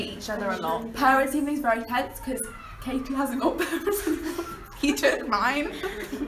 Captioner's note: laughs